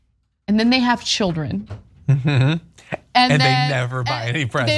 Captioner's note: laugh